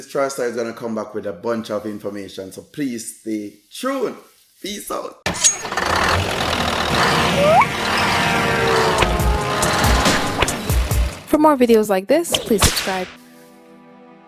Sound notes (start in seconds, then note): 5.6 truck starting up and horn blowing